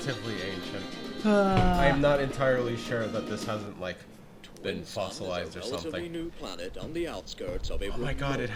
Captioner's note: sigh